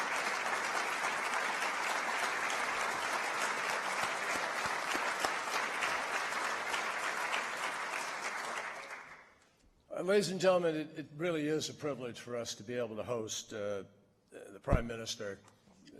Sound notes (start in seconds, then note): 3.2 applause